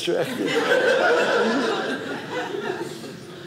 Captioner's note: audience laughing